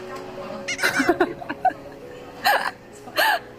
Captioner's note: laughs out loud